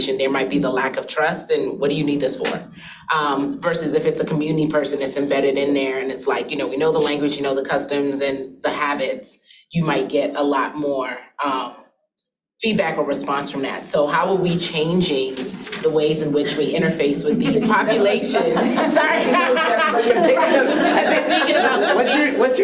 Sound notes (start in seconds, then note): 18.9 participants laughing